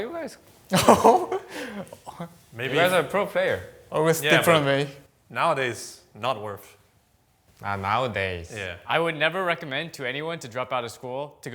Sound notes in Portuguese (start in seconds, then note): 0.7 risos